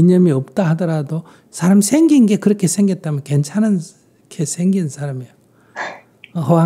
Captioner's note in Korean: 질문자 웃음